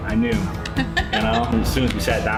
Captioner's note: laughs